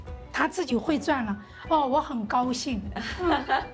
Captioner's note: speaking local language